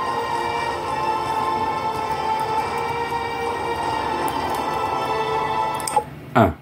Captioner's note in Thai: ปรบมือ